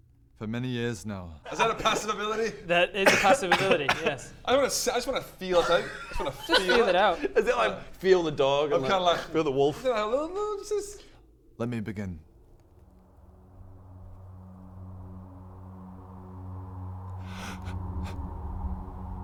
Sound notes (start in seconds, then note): 17.2 sharp intake of breath